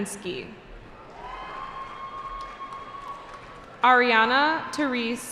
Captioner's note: cheering